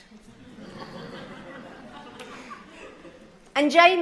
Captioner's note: laughter